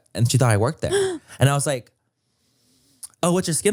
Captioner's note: gasps